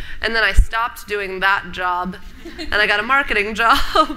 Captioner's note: laughter